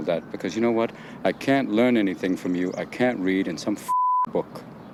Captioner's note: beeping